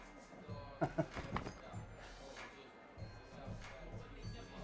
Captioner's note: gangster chuckles